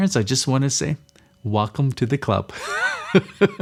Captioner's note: laughs